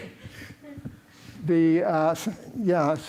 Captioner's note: laughter